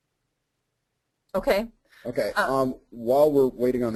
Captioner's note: voiceover